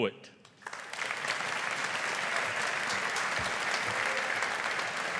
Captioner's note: audience applauding